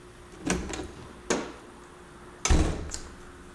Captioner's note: door opening, closing